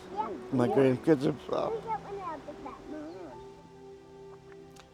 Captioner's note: chatter